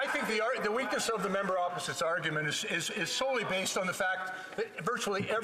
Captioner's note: applause